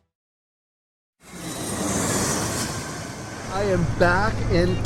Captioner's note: engines humming